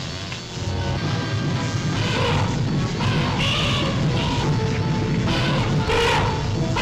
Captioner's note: intense music; elephants trumpeting